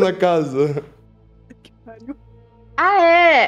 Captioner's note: laugh